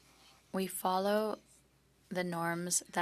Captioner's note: speaking French